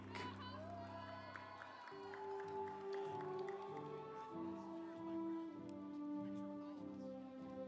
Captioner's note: audience cheering; instrumental music